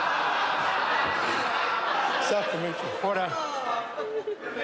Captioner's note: members laugh